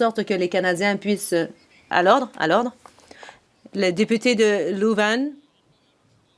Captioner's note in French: voix de l'interprète